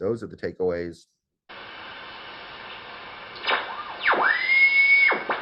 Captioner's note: radio Tuning